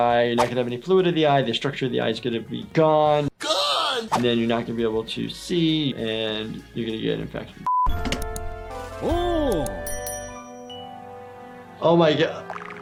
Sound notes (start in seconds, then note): 7.6 beep; 7.9 refrigerator door opening; 9.8 dinging